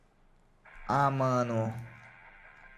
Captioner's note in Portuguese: none